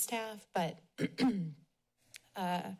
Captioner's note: clears throat